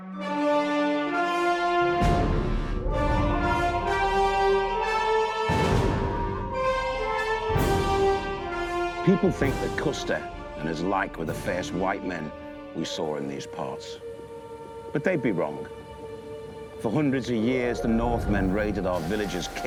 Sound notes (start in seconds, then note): 0.1 majestic cinematic music; 3.1 distant shout echoes